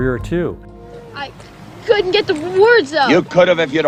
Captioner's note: stuttering